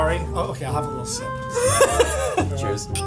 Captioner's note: laughing